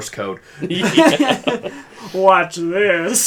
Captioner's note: laughs